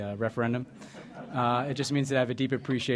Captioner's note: laughter